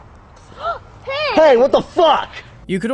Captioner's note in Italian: Gasp